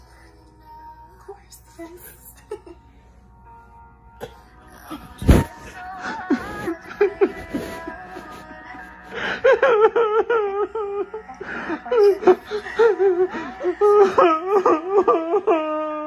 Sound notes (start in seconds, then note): 6.3 sobbing